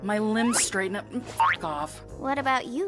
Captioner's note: boink!